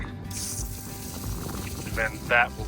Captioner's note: water spurting